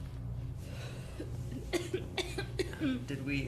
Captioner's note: tosse